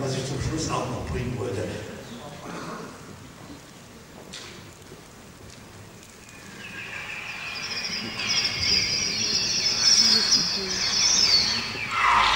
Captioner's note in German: Elektronische Vogelschreie aus dem Hitchcock-Film "Die Vögel"